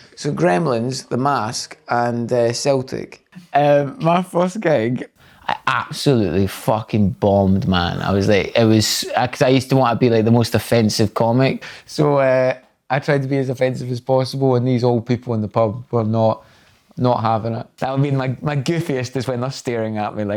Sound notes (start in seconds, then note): none